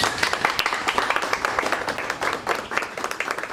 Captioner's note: applause